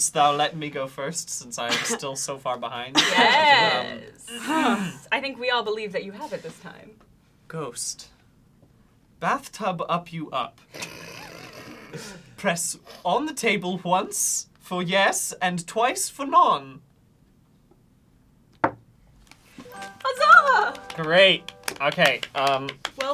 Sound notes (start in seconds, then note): 18.6 knocks once